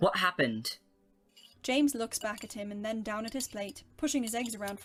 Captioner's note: fork scrapes across the plate